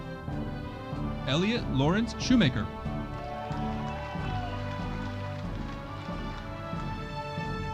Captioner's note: audience applauding